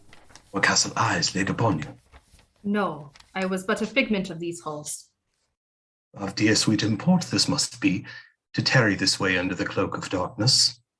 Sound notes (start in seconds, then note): none